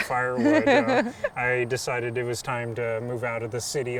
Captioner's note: laughs